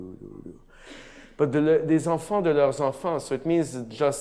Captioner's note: speaks in a foreign language